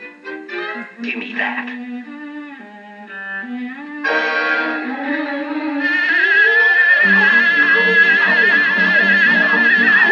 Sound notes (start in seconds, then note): 5.8 buzz Buzz Buzz